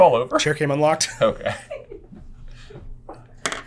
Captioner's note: giggling